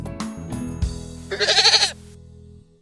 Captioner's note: goat Bleat